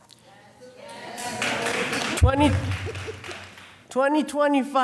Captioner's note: audience applauding